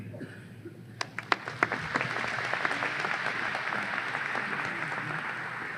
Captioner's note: audience applause